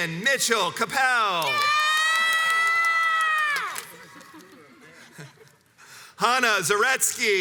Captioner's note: crowds cheers and applauds